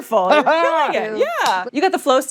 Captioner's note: laughs